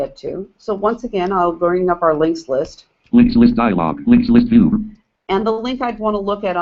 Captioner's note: JAWS speaking